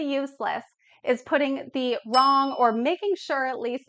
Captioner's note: bell ringing